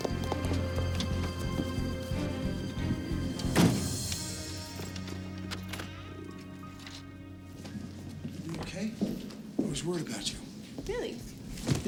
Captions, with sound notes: (car door slams shut) - Are you okay? I was worried about you. - Really?